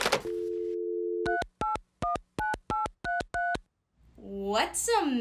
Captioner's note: dialing phone; dial tone